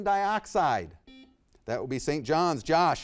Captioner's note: buzzer beeps